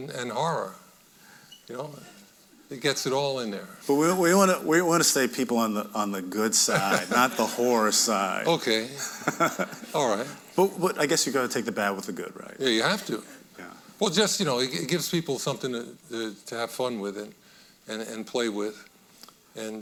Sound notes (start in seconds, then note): 6.6 audience laughing; 9.0 laughing